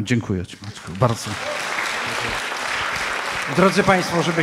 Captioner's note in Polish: oklaski